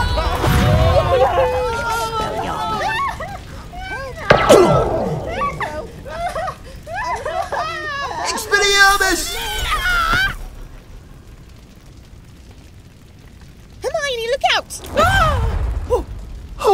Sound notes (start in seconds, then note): 4.3 pew!; 5.8 screaming and crying; 13.9 yells